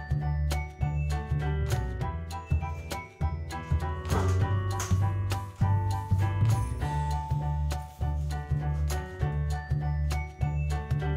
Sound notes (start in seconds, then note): 4.1 door unlocks